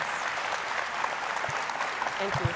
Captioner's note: audience applauding